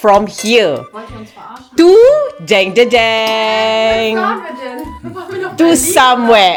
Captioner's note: speaking German